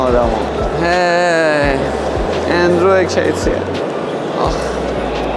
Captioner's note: sighs